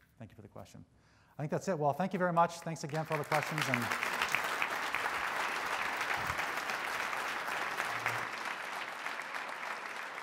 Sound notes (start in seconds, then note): 2.8 crowd applauds